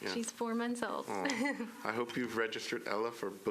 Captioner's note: laughter